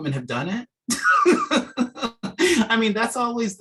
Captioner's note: chuckling